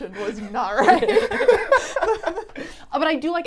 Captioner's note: all laughing